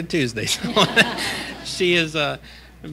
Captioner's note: laughter